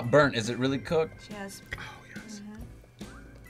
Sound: whispers

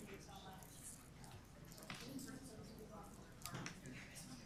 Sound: group chatter

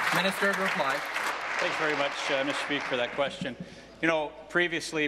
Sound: applause

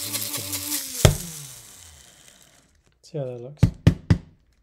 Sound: grinder thuds

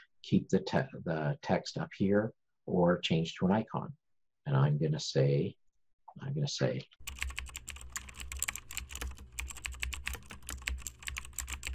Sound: typing

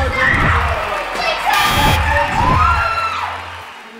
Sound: yelling

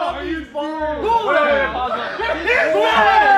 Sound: cheering

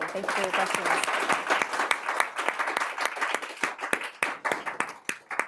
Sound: audience applauding

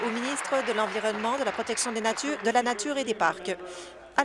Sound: applause

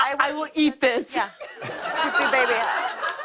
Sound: laughter

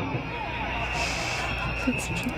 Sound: snickers

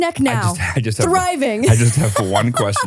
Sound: laughs

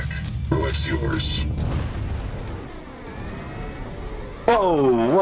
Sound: explosive booming

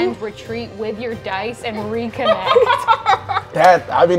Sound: players laughing

